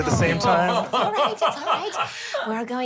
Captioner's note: laughs